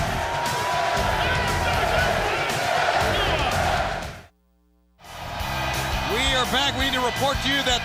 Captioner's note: crowd cheering